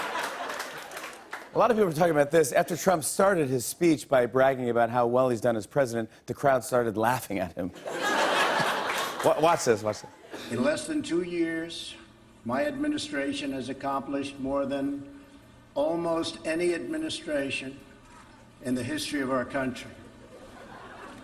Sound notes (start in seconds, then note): 0.0 laughter and applause; 7.7 laughter